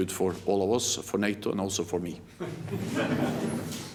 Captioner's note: laughter